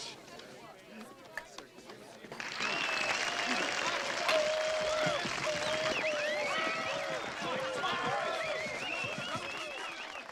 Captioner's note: applause and chatter